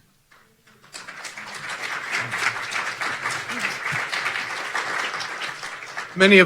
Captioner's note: audience clapping